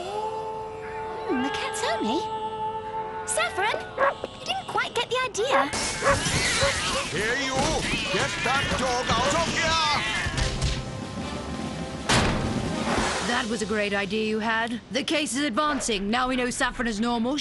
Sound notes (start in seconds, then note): 5.8 crashing; 6.0 cats snarling; 12.0 door slam